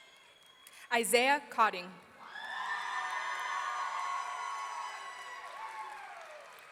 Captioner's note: audience cheering